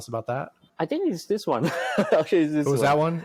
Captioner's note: laughs